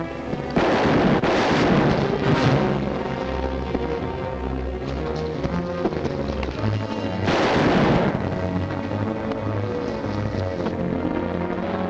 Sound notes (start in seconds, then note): 0.4 gun firing; 4.8 tense music; 7.2 gun fires; 9.1 tense music